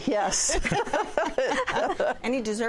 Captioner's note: laughter